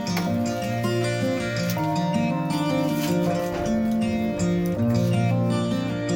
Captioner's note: shivering